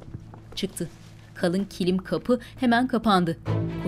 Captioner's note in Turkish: Ayak sesleri